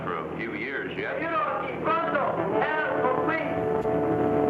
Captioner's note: man yells in foreign language; dramatic music